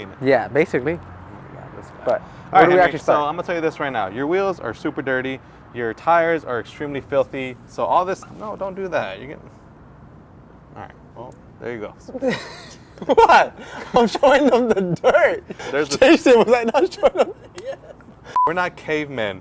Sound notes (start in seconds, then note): 12.1 both laughing; 18.3 scene beeps